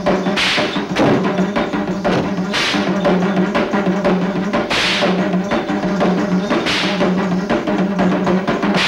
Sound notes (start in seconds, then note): 2.5 whip sound